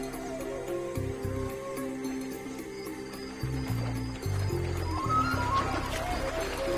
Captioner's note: insects chirping; dramatic music